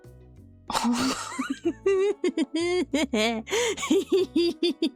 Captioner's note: maniacal cackling